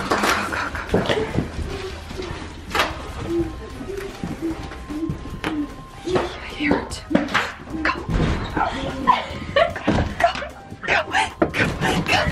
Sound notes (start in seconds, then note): 2.1 humming; 9.3 laughing